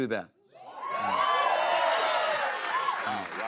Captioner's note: cheers and applause